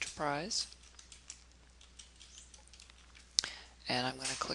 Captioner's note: typing